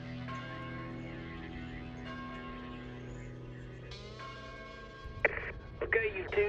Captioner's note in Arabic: يقرع جرس الكنيسة